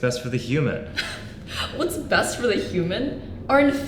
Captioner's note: laugh